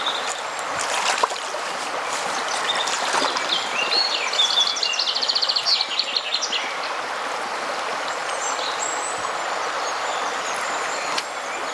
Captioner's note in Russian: шум реки; пение птиц